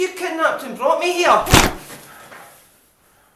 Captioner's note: punch